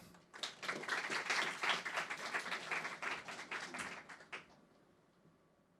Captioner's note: audience clapping